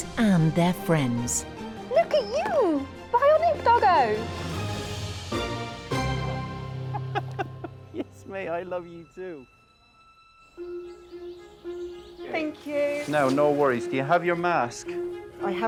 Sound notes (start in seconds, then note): 4.8 dramatic upbeat music; 6.8 laughs; 10.8 gentle upbeat music